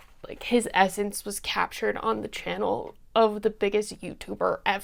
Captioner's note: none